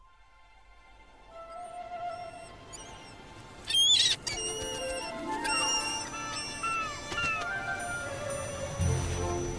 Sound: seagulls calling

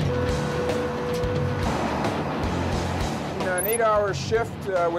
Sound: machine whirring

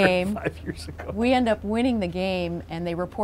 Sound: laughs

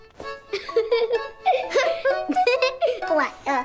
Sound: girls laughing

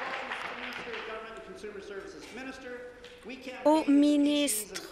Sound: applause

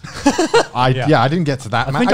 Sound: laughs

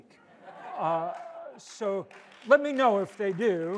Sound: audience laughs and applauds

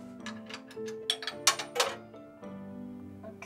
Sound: quarter clinking

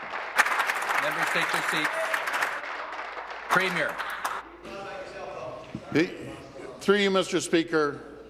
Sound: applause

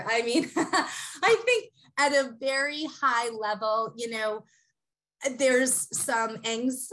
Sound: laugh

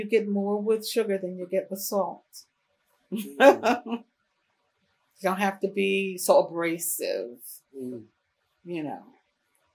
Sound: laughs

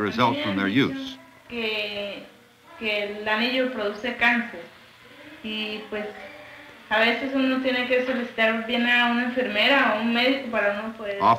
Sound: speaking Spanish

